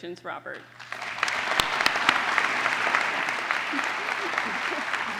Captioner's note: applause